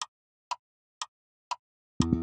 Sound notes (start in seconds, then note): 0.0 clock Ticking